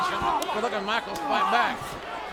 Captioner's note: Masters groaning